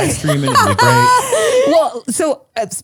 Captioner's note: laugh